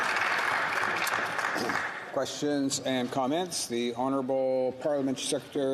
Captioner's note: some Applause